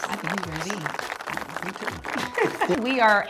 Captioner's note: audience applauds